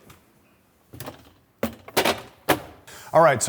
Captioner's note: container clattering